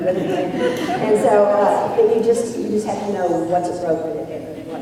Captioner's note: laughter